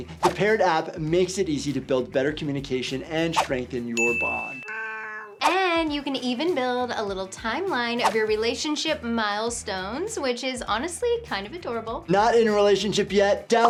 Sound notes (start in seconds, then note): 4.0 bell dinging; 4.6 cat meowing